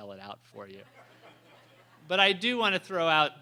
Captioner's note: laughter